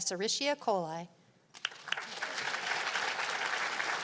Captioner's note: applause